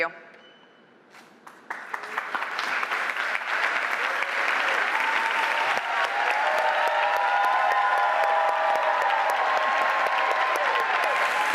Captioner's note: applause